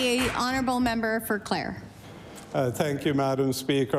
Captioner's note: applause